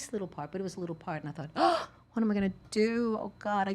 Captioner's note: gasps